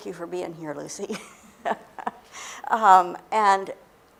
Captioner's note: laughter